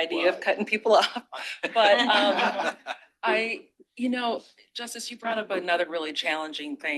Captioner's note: laughter